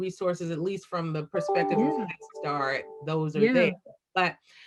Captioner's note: computer alert